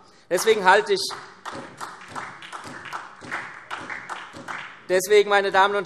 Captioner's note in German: Beifall SPD